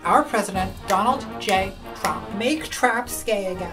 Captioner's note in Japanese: 指を鳴らしながら